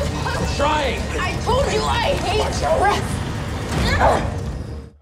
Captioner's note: grunts